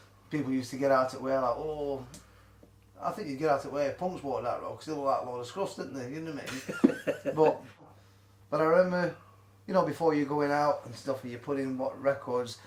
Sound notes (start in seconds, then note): 6.4 laughs